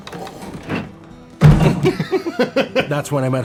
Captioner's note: thud